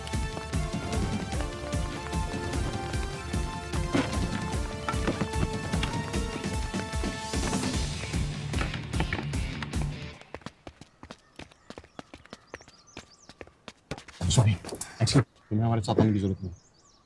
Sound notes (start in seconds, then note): 4.0 window opens; 10.4 footsteps